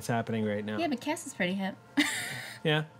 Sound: chuckles

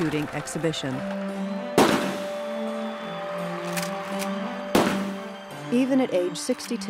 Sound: gunshots

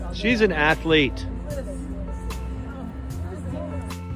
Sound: chatter

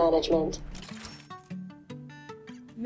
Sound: cash register rings

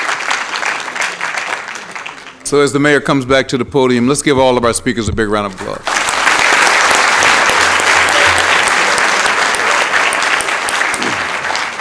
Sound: applause

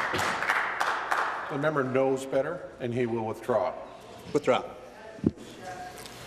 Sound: voice trailing

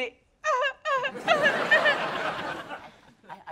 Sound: crowd laughing

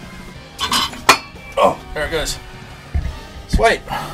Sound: metal clangs

